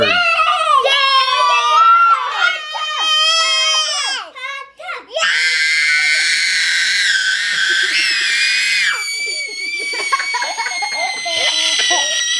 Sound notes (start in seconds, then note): 1.5 children cheering; 5.2 screaming; 9.0 laughing